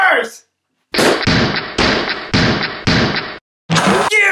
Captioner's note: smashing sound